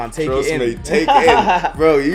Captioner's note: laughs